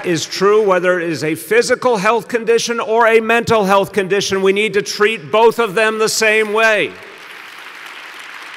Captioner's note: applause